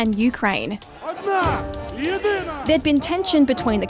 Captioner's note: protesters chant